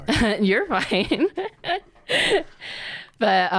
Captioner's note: laughs